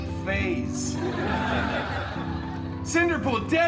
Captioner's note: guests laughing